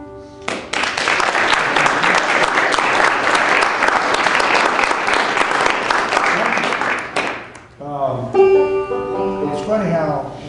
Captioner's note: applause